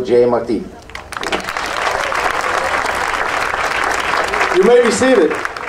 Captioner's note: audience applauding